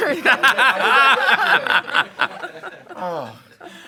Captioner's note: group laughs